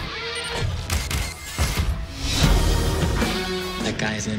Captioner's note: camera clicking